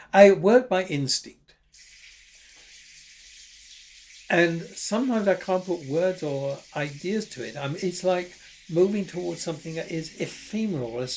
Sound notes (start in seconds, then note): 2.1 instruments rustling